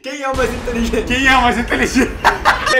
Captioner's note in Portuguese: Risada